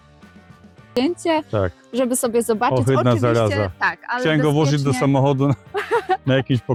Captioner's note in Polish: śmiech